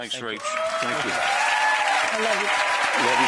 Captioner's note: audience cheers and applauds